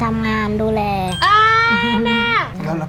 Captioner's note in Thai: โห่ร้อง